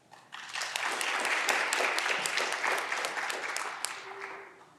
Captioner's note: audience clapping